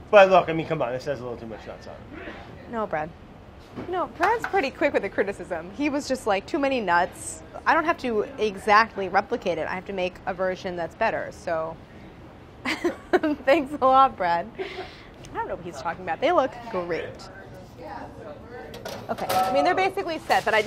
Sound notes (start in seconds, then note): 12.7 laughing